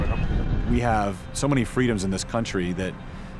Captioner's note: airplane and fighter jet